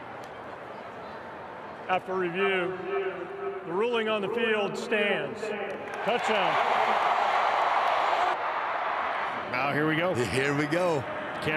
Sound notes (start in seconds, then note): 6.0 fans cheer